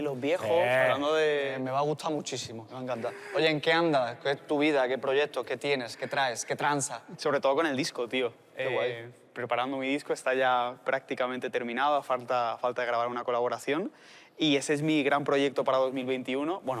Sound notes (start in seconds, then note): none